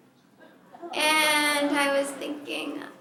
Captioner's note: laughter